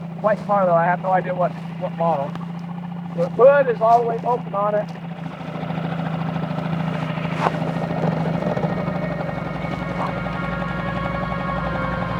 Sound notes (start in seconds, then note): 5.6 dramatic music; 5.6 motor rattling